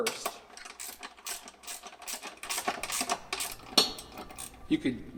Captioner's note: ratchet clicking